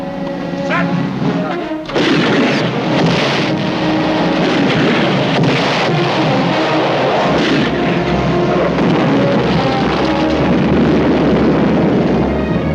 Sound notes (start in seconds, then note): 2.1 cannon booming; 2.1 explosions